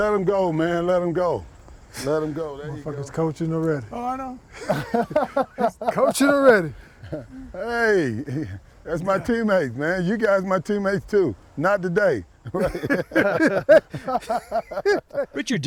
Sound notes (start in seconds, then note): 4.6 laughing; 14.5 laughing